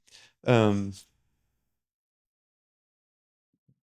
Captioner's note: sighing